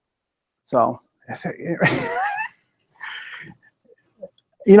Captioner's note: laughing